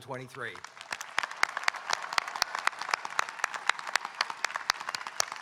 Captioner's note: audience applauding and cheering